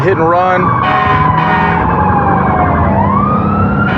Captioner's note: emtmt s sirenens s blara